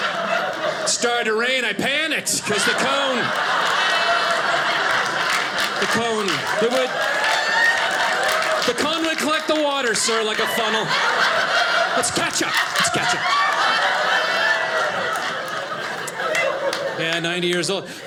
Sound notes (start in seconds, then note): 4.2 audience laughing; 13.1 audience laughing